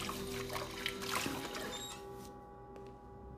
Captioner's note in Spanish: Timbre de la puerta